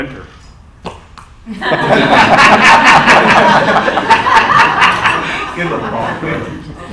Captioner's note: laughter